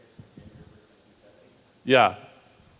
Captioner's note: audience member speaking off-mic